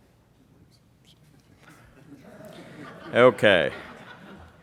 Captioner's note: laughing